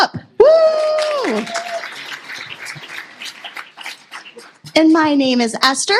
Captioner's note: applause